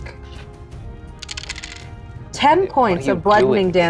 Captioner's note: dice clinks